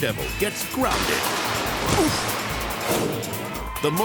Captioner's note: body thumps; person grunts; image whooshes